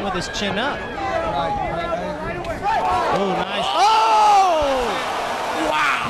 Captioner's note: crowd noise & fight sounds